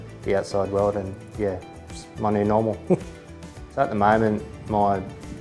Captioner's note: chuckles